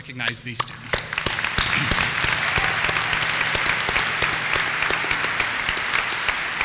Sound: applause

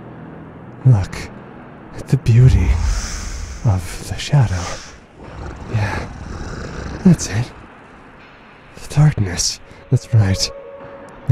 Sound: growling

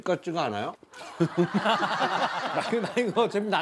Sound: laughing

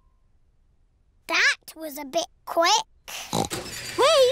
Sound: oinks

